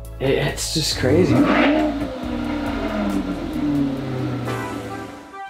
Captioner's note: engine revving